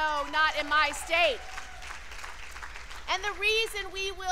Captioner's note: cheers and applause